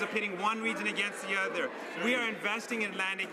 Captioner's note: none